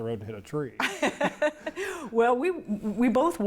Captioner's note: laughs